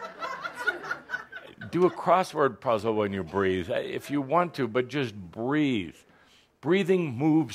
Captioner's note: laughter